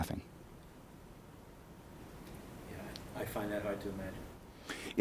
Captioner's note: voiceover